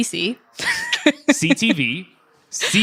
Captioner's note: laughing